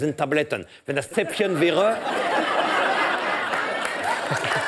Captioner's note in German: Gelächter